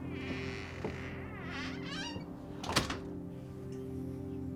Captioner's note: door creaks shut